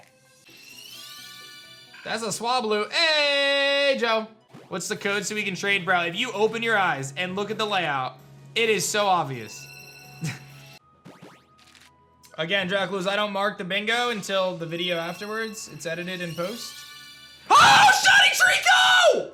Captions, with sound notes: That's a Swablu. Ey! Joe. What's the code so we can trade, bro? If you open your eyes and look at the layout, it is so obvious. (chuckles) Again Draculus, I don't mark the bingo until the video afterwards it's edited in post. Oh! Shiny Treecko!